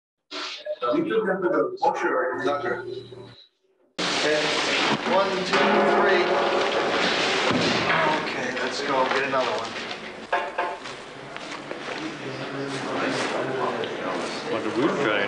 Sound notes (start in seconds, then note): 4.1 paper shroud rattling; 5.3 metal echoing